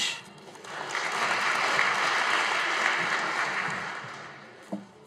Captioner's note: audience applauding